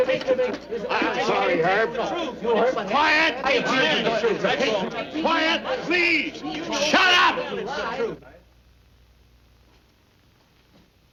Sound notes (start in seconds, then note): 8.5 arguing loudly